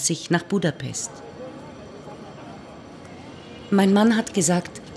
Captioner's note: train station bells ringing; German speaking continues